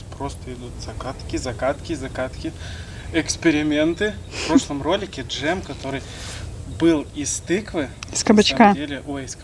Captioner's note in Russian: фыркает